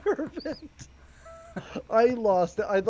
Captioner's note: laughing